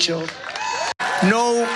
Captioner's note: applause